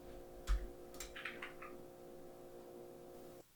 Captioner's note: typing on keyboard